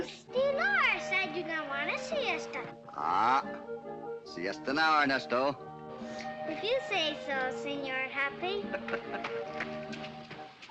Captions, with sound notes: Dolores, I don't want a siesta. Siesta hour, Ernesto. - If you say so, Señor Hoppy. [ HOPPY CHUCKLES ]